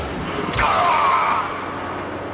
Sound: death scream

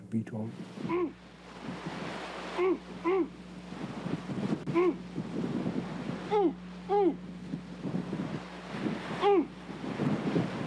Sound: imitating walrus calls

